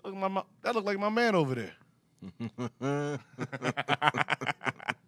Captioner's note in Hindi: हंसते हुए